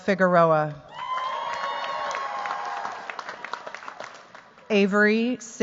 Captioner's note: cheers, applause